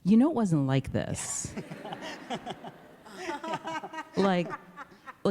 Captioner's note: laughter